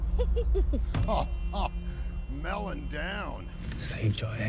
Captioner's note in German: Gelächter